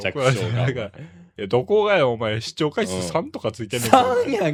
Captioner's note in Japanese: 笑い